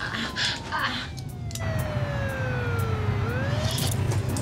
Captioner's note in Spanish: quejidos de ella; siguen sonando las sirenas